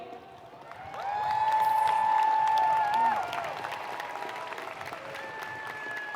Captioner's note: audience cheering and applauding